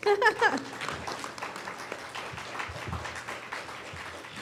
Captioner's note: audience claps